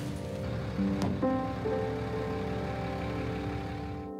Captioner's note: traffic noise